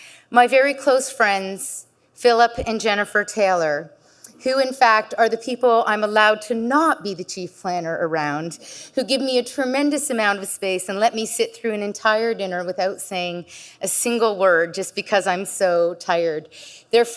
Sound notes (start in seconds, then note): none